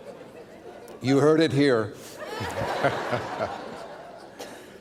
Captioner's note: laughter